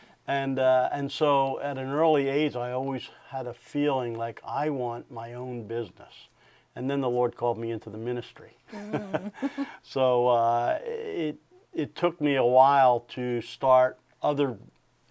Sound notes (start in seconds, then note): 8.7 laughs